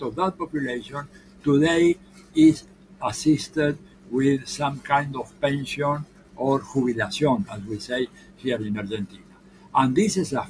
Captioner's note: foreign language 00:13:27